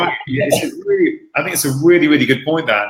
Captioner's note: all laughing